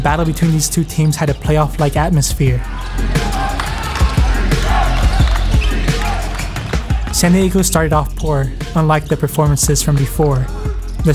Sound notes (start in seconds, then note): 3.3 shouting; 3.3 upbeat music